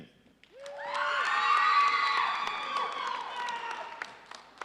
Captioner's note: audience cheering